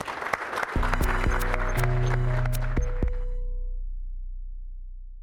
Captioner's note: applause and Music